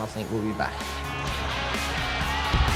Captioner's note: cheering